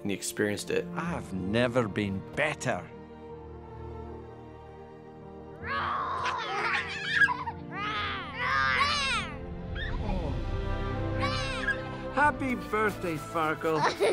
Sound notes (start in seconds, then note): 7.3 roaring at each other